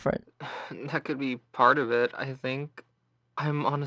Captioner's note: sighs